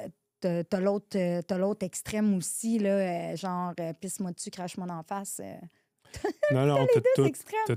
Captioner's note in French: rires